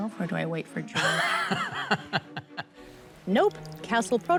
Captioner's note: laughs